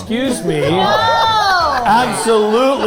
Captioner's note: group laughing